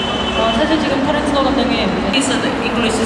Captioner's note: speaking Korean